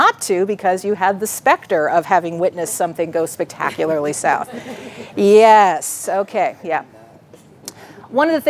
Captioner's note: audience laughing